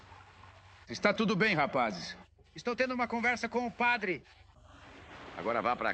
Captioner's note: yelling